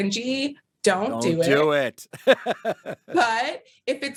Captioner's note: laughs